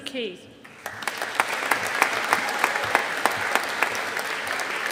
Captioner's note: audience applauding